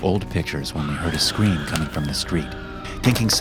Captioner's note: person screaming